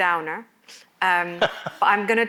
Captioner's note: laughs